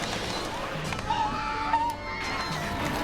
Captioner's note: scream